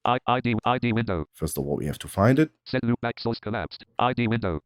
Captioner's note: automated voice; automated voice